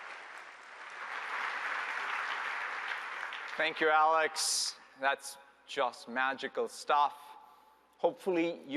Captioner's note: applause